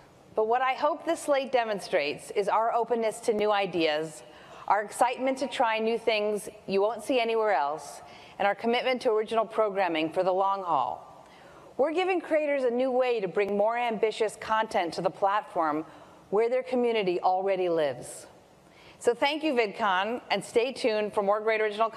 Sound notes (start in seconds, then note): none